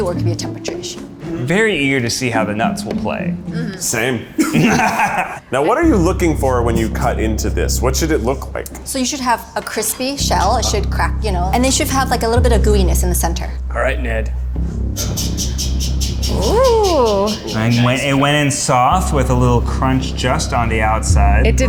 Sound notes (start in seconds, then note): 4.3 laughter